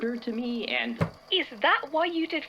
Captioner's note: hand slamming on table